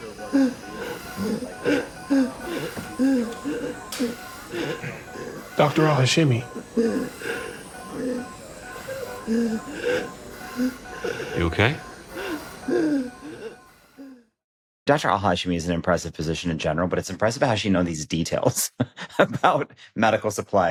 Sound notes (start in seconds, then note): 0.0 patient wheezing; 6.4 medical equipment beeping; 6.4 wheezing continues; 12.1 wheezing continues; 18.4 laughs